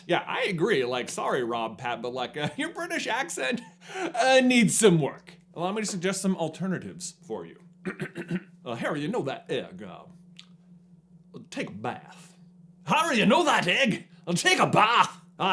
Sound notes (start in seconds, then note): 7.8 clears throat